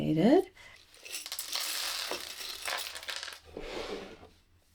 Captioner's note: clatter of buttons on the floor